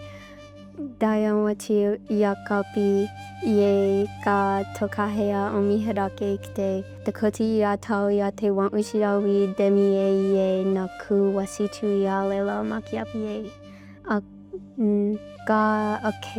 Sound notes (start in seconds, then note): 4.0 speaking in Dakota language; 12.4 speaking in Dakota language